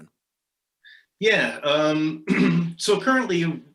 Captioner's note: clears throat